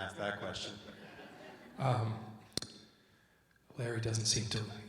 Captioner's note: audience laughs